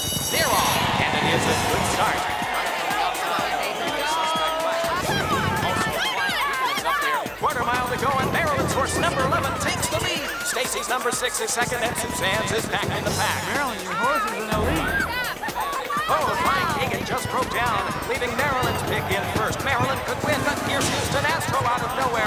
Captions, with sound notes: - [Racetrack Announcer] They're off and it is a good start. - Come on, baby, go. - Come on, come on! - [Racetrack Announcer] Quarter mile to go and Marilyn's horse, number 11 takes the lead. Stacy's number six is second and Suzanne's is back in the pack. - Marilyn, your horse is an elite. - [Racetrack Announcer] Oh, My Higgin just broke down, leaving Marilyn's pick in first. Marilyn could win, but here's Houston Astro out of nowhere.